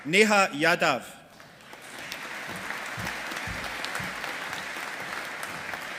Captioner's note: audience applauding